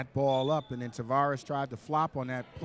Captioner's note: referee whistling